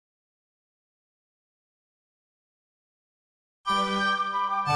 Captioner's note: no sound